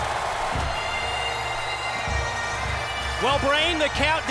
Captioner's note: crowd cheering